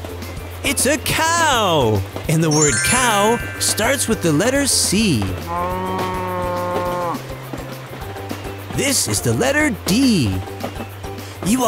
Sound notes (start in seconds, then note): 5.6 moo